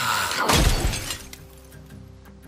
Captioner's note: gunshot